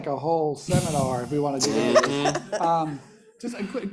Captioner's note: laughing